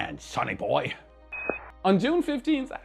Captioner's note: alarm beeping